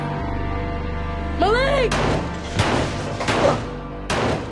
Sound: gunshots

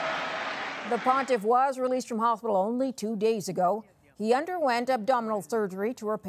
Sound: cheering

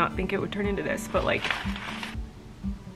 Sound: paper rustling

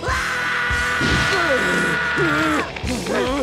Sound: screaming; grunting

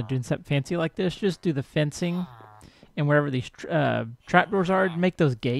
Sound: chattering continues

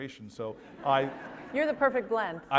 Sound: laugh

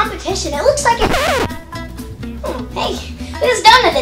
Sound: record scratch

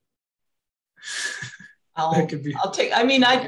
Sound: giggles

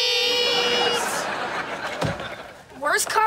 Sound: laughing

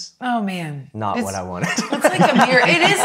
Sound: laughing

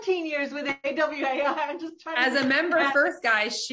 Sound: laughs

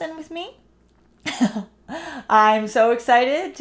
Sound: laughs

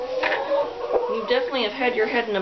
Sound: clucking

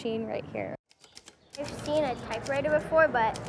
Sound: typewriter clacking

